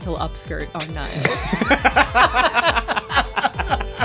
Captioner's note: laughing; electronic music